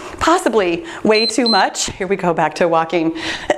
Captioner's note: timer beeps